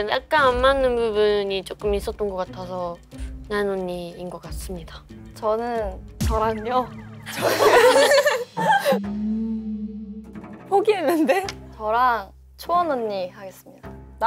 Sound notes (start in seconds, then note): 7.2 laughing